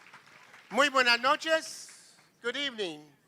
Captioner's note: non-english speech